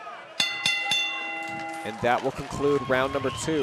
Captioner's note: audience cheering; bell rings